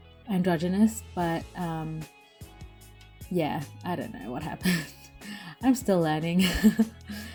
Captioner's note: laughs